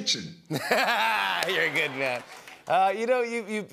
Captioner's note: laughter